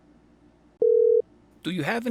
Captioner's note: dial tone